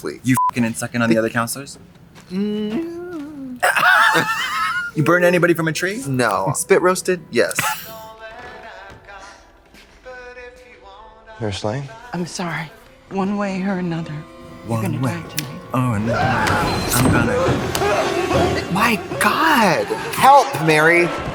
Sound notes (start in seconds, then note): 2.4 Katya laughs; 16.0 counselor screaming